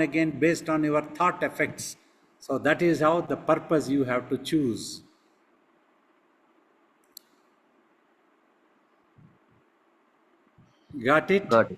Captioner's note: pause